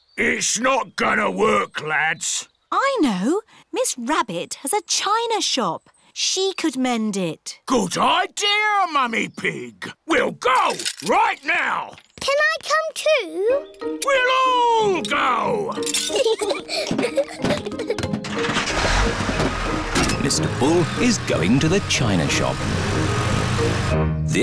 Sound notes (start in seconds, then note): 15.8 peppa and george giggle; 18.2 engine turns on